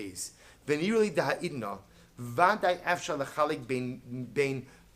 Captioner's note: Hebrew